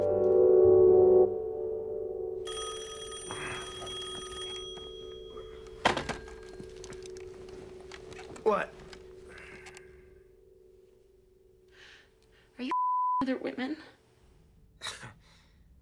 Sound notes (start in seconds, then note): 2.4 phone rings